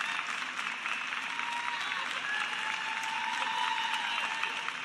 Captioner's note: cheers and applause